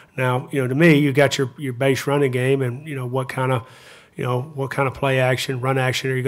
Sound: none

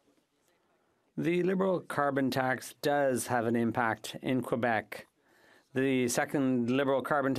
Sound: speaking French

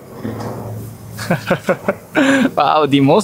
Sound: laughs

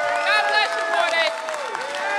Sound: applause

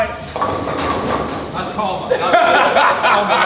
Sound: pins crashing; lads laughing

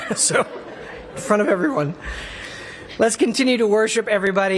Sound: laughter

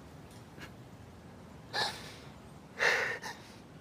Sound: sobs

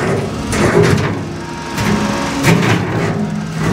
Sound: engine revving

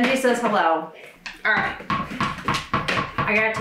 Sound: dog ball bouncing

